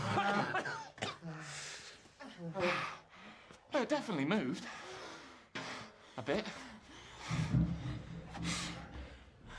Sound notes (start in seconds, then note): 0.0 coughing